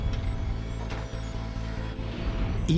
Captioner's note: beeping